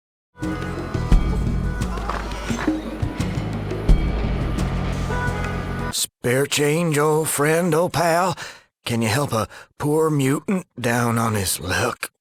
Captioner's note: cough